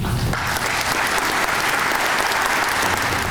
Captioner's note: applause